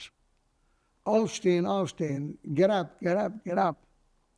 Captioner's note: german